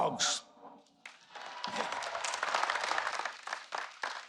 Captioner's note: audience applauds